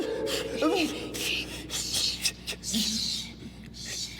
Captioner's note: continues whimpering